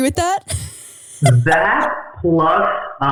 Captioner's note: laughing